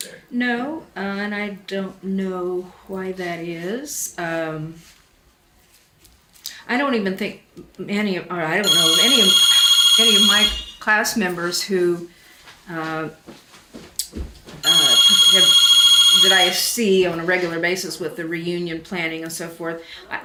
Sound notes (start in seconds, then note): 8.6 phone rings in background